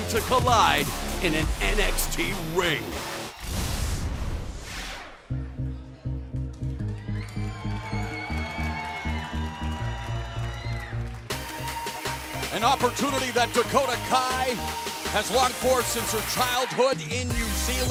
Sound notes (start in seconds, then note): 5.7 crowd cheering